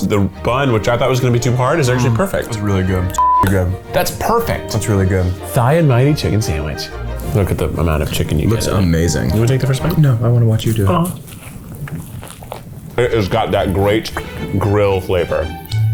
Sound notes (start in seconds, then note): 3.1 beep